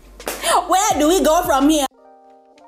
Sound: Nigerian accent; light music

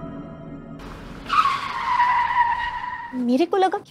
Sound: sound of brakes

